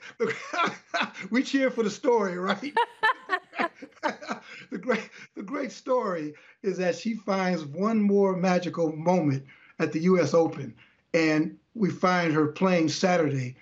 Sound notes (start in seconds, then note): 2.1 laughter